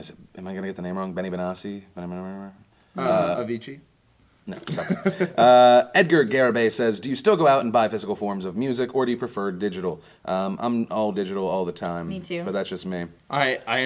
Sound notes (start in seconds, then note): 1.9 mumbling